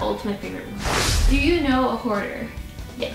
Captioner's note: rush of air